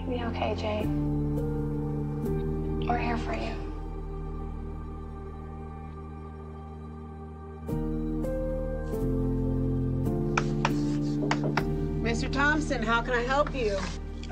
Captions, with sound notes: - You'll be okay, Jay. We're here for you. (chalk clicking) - Mr. Thompson, how can I help you?